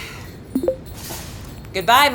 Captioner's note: device bleeps; device dings